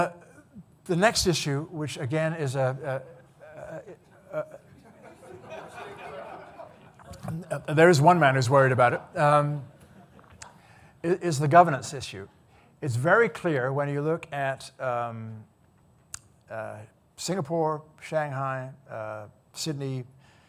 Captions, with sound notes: So, the next issue, which again is, (audience laughing) there's one man who's worried about it, is the governance issue. It's very clear when you look at Singapore, Shanghai, Sydney,